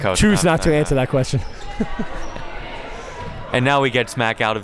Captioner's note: laughs